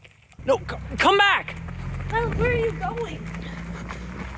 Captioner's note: engine revving